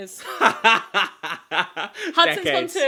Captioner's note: laughing